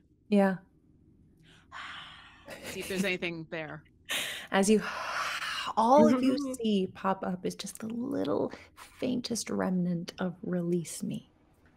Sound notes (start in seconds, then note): 5.2 whimpers